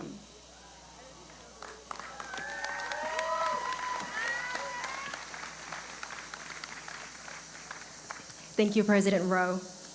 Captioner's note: applause